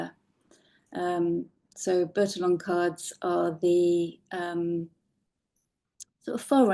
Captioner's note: none